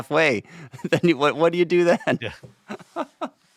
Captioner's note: laughs